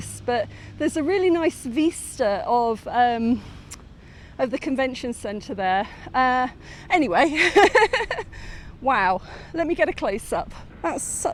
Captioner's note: laughing